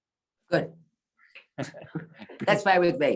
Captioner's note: chuckles